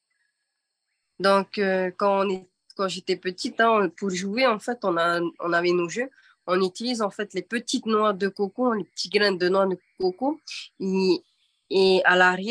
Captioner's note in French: En français